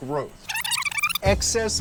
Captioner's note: graphic blipping